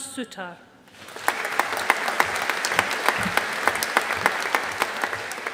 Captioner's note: audience applauding